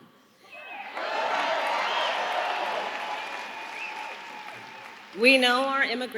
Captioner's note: applause